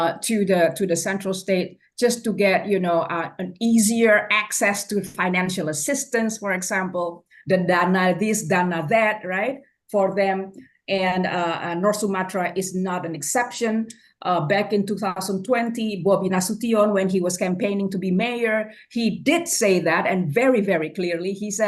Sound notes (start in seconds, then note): 7.8 foreign language